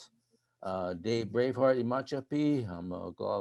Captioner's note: speaking in foreign language